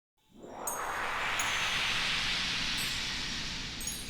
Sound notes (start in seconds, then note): 0.3 swoosh and chimes